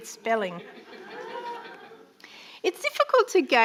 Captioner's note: audience laughing